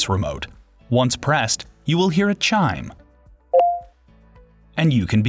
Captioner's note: device Chimes